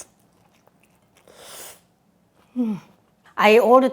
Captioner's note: slurps